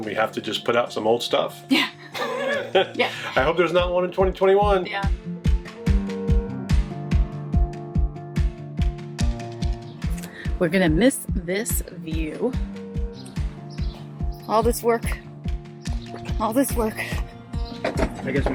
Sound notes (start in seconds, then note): 2.1 laughing; 5.7 upbeat music; 9.7 birds singing; 12.8 birds singing; 13.3 upbeat music